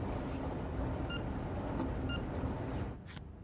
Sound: phone beeping

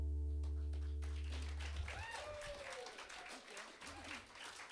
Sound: applause

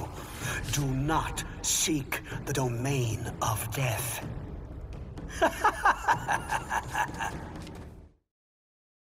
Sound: laughs

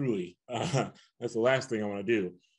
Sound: chuckles

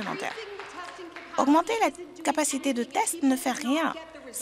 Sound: applause

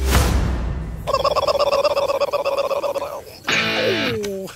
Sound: gobble Noise

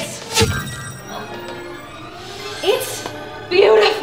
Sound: enchanting sound

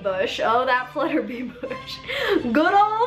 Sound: laughs

